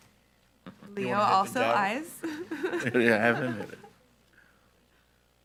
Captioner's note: laughs